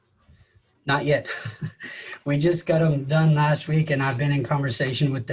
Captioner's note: laughs